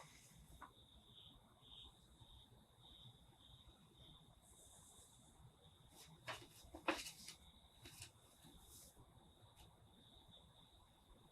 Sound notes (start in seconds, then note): 6.0 paper crinkling